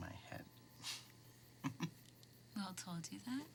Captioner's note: chuckles